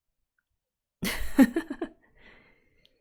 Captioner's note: laughs